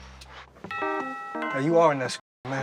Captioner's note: doorbell chimes